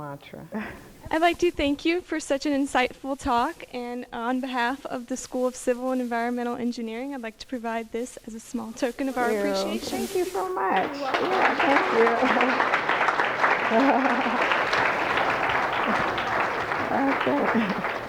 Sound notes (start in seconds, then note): 14.0 applause